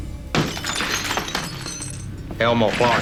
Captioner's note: glass shattering